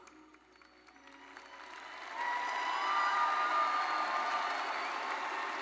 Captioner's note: audience cheering and applauding